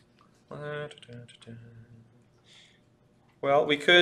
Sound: humming

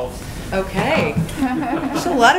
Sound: laughter

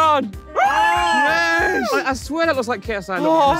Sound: cheering

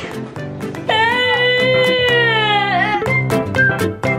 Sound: crying; playful music

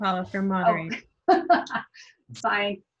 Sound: laughs

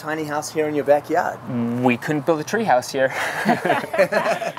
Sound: laughing

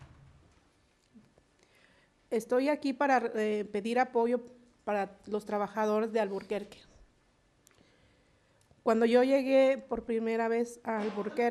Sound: speaking spanish

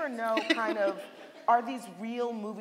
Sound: laughing

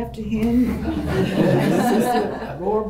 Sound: laughter

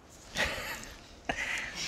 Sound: laughs

